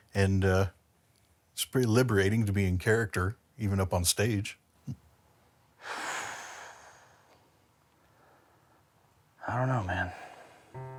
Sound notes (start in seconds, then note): 6.0 sighs